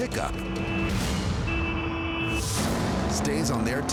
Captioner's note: honking